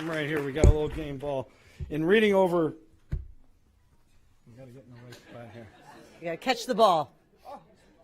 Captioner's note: applause